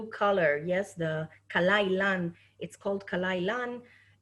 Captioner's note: speaking Hebrew